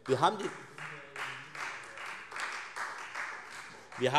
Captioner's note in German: Beifall Freie Demokraten